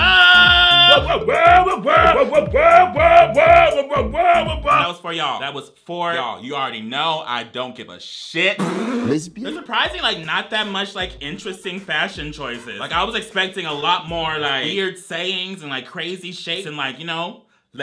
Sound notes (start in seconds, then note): 8.5 blows raspberry